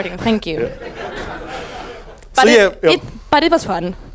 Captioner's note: audience laughs